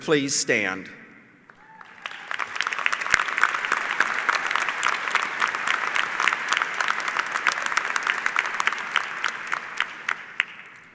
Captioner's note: applause